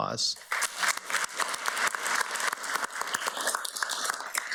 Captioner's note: everybody applauds